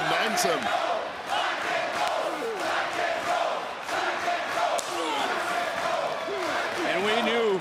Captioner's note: crowd chants "black & gold"